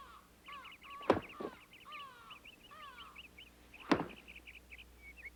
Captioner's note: stick thumping